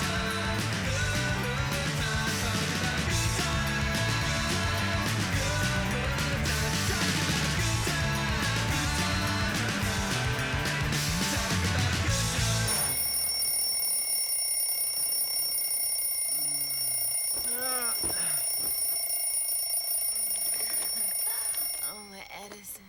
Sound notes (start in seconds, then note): 12.4 alarm bell rings; 17.3 groans